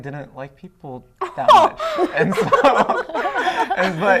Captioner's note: laughter